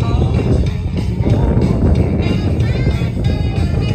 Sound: jazz music; wind blowing; swing jazz music

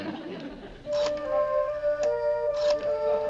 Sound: dialing

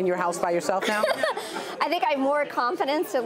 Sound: laughter

